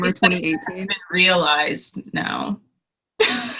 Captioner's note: laughs